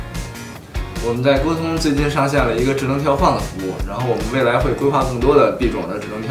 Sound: Mandarin

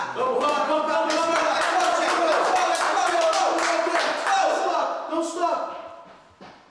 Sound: all yelling, "Let's go."

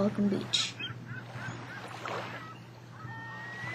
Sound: ocean waves

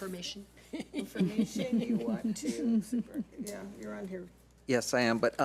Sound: laughs

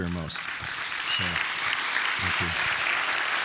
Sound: audience applauding

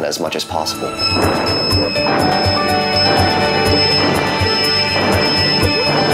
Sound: piano music; squeal

